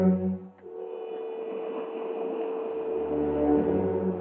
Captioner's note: waves crashing